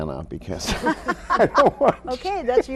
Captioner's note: all laughing